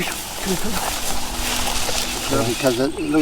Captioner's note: crunching leaves